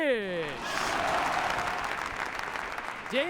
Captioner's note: cheering and applause